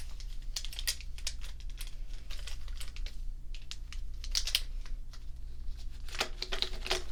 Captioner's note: markers shuffling